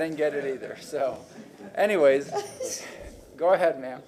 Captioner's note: laughter